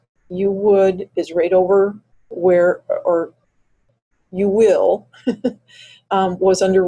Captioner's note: chuckles